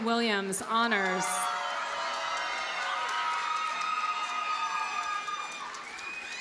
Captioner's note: audience cheers and applauds